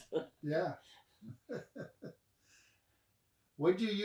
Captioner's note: both laugh